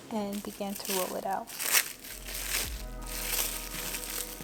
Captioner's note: sound of plastic wrap crinkling